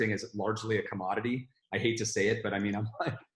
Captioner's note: laughing